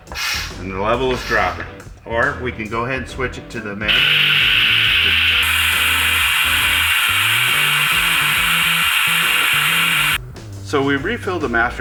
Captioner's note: compressor air noise